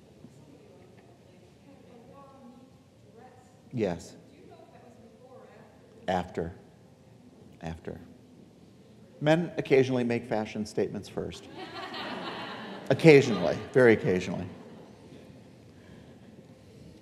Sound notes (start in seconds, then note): 11.5 audience laughing